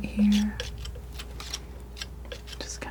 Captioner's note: crunching